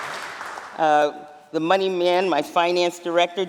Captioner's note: applause